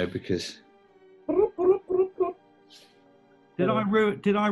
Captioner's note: trills